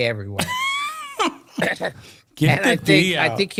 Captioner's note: laughing